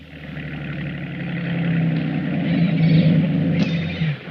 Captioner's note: boat rumbling